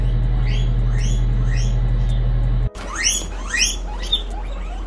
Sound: guinea pig screams

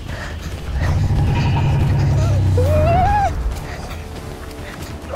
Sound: suspense music; dinosaur growls

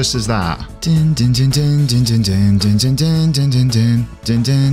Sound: humming theme tune

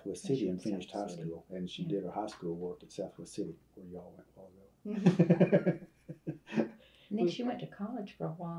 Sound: laughs

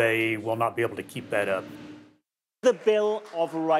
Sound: audience applauding

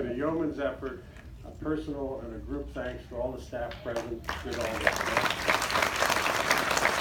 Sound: clapping

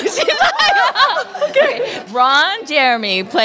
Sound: laughter

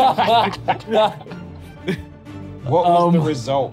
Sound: both laughing

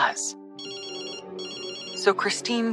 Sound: cell phone rings

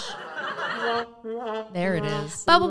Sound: mocking sound

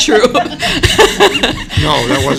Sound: laughter

